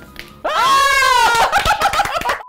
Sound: gleeful laughter; triumphant clapping

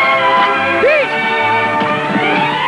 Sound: yipping

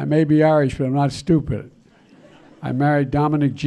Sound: laughter

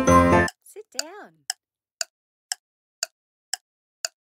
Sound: timer

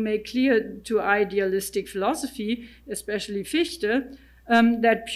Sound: speaking in German

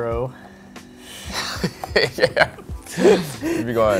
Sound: laughter

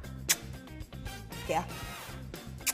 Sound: lips kissing; lips kissing

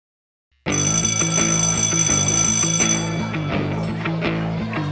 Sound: bell rings; rhythmic music

